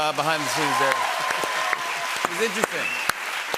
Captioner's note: cheers and applause